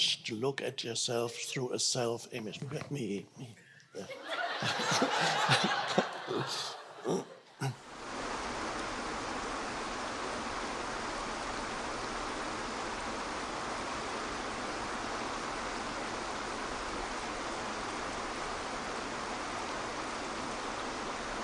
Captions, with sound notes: to look at yourself through a self image. "Look at me." (audience laughing) (water rushing)